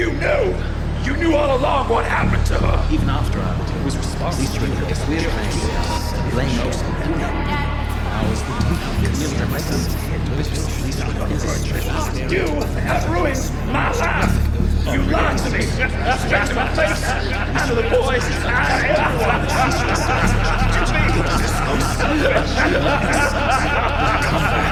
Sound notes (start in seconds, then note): 0.1 echoes swirl; 9.5 echoes become chaotic; 12.5 echoes swirl; 16.3 echoing laughter; 18.3 echoes become even more chaotic; 24.4 maniacal laughter echoes